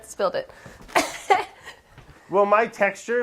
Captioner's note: laughs